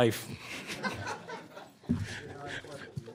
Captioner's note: audience laughing